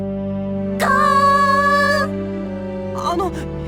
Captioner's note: depressed